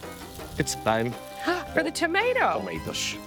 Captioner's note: gasping